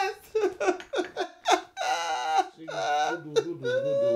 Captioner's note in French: pleurs